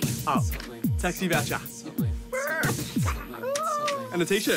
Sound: imitates car crashing

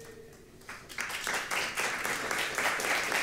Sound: applause

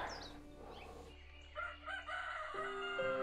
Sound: birds chirping; rooster crowing

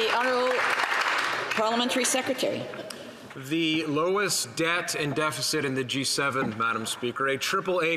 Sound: some Applause

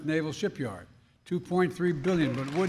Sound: applause

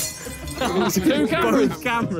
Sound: glass shatters

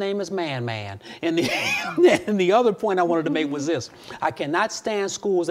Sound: laughs

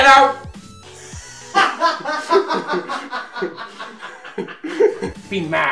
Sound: laughter

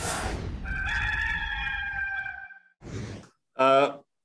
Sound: rooster crowing

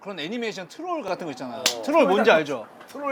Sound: clap

